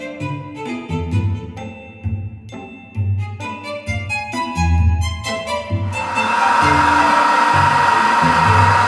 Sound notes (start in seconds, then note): 5.8 blade Sharpening Machine whirring